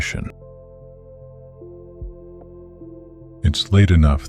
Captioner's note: soft voice